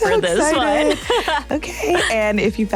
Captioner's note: chuckles